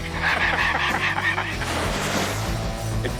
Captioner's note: laughs; gun shooting